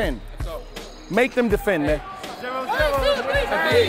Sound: overlapping chattering

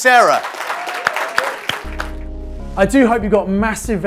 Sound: audience claps

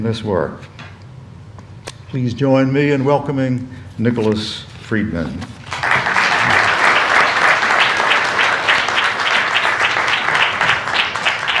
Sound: applause

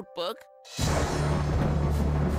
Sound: thunder

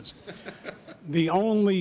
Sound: audience laughing

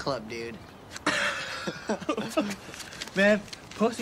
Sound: both laugh

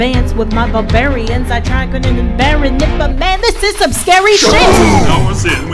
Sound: shh-boom!

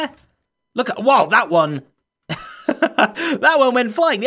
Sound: laughs

